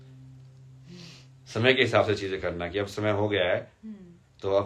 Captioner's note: नाक से की जाने वाली आवाज़